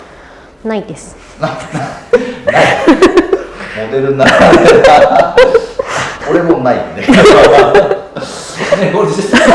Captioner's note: laughs